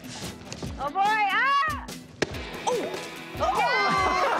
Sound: cheering

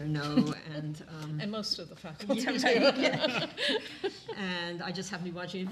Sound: laughing

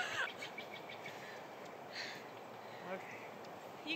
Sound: laughing; birds chirping

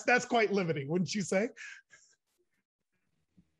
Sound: chuckles

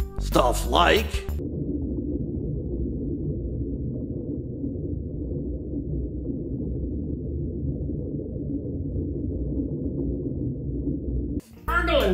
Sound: quiet, deep, hollow echoing noise

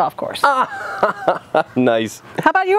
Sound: laughs

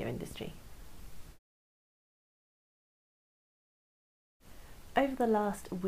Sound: silence

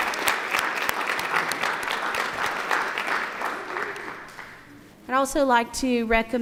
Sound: applause

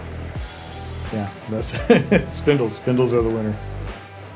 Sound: laughs

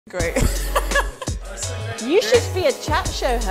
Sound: laughs

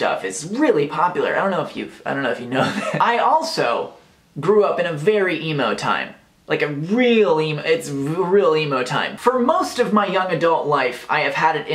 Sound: laughs

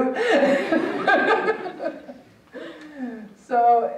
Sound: laughing; audience laughing

